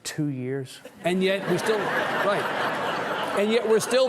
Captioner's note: audience chuckling